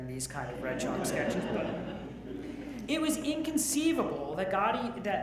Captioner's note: audience laughs